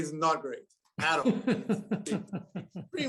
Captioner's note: laughter